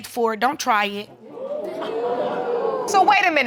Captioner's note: audience exclaiming